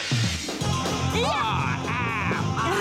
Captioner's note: yelling